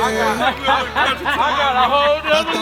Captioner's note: rap music; man laughing